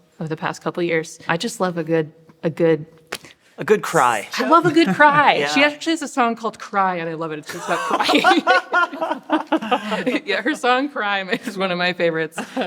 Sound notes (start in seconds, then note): 7.5 laugh